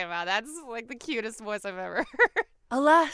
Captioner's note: laughs